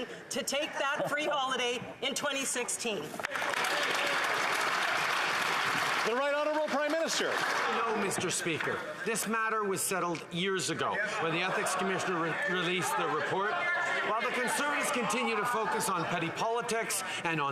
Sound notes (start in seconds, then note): 6.6 applause